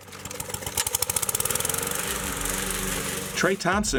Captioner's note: lawnmower running